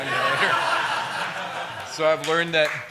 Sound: laughter

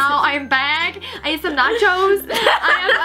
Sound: laughs

